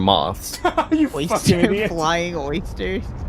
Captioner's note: laughs